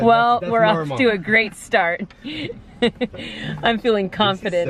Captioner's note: laughs